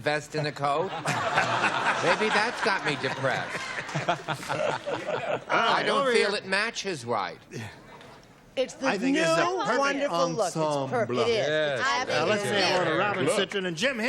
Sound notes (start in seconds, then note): 5.8 laughter